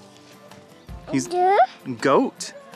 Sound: baby babble

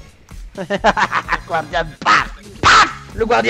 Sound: evil laugh

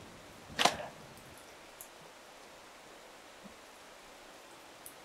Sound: rain trickling in distance; thump

